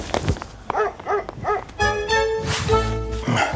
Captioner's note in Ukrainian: гавкає собака